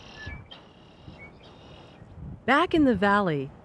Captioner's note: birds squawking